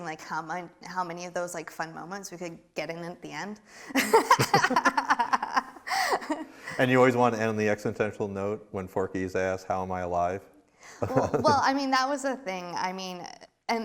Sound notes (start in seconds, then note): 3.9 both laughing; 11.0 laughs